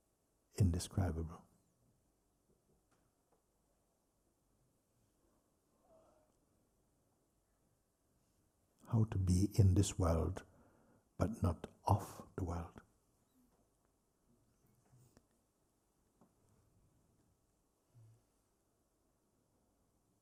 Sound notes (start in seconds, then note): 14.7 silence